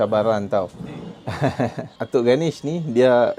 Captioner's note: laugh